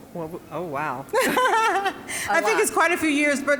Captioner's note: laughing